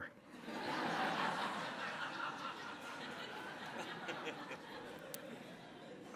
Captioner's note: audience laughter